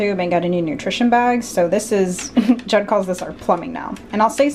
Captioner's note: chuckles